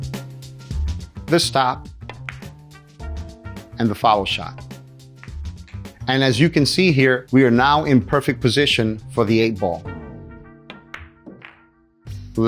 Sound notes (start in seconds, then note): 2.1 pool table balls clacking; 5.2 pool table balls clacking; 10.6 pool table balls clacking